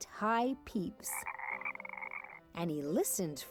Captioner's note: croaking